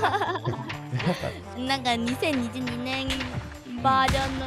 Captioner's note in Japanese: 通訳中